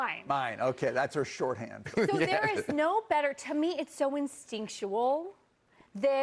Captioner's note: laughter